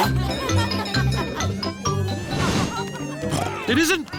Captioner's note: cheerful jingling; oinks